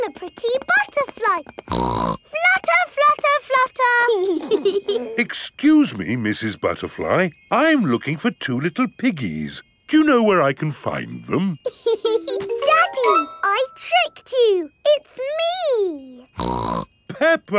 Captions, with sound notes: I'm a pretty butterfly! (SNORTS) Flutter, flutter, flutter. (BOTH GIGGLING) Excuse me, Mrs. Butterfly, I'm looking for two little piggies. Do you know where I can find them? (LAUGHS) Daddy! I tricked you, it's me! (SNORTS)